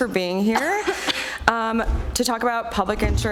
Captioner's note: coughing